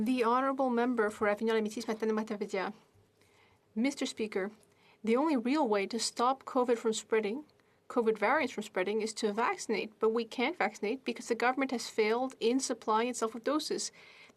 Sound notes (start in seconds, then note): 3.2 speaking French